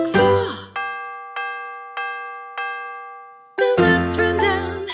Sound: clock chiming

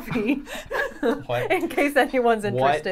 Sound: all laughing

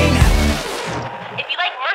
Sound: generic Record Scratch

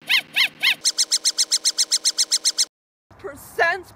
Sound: chipmunk laughter

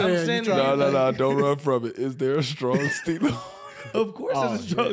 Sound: laughs

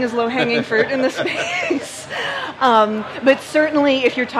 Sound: laughs

